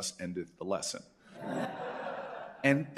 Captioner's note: laughter